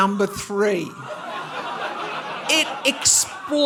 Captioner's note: audience laughing